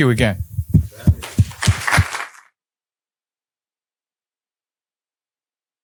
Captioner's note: applause